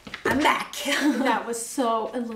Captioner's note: laughs